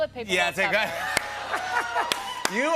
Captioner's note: laughs